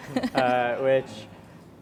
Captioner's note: laughing